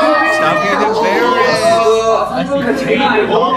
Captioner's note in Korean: 외침